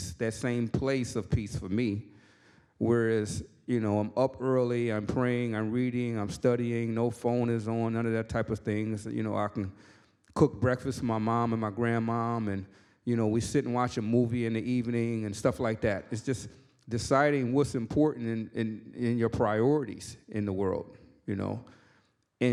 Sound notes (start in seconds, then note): none